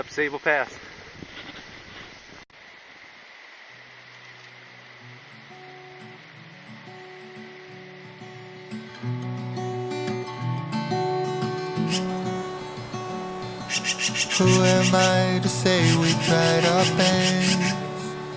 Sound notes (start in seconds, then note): 3.0 running water; 11.8 bird chirping